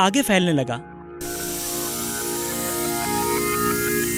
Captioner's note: air hissing